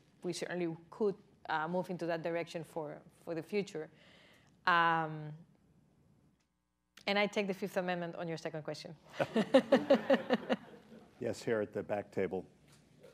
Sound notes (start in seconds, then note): 9.1 laughter, laughs